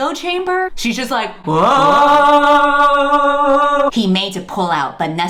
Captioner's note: echoing sounds